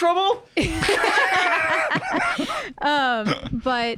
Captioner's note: laugh